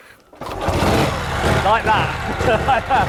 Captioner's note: motorcycle engine starting up; laughter